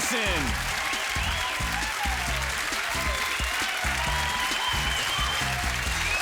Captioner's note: applause